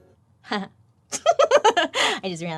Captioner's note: laughs